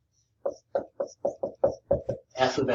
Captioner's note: marker knocking